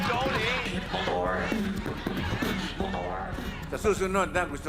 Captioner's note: beatboxing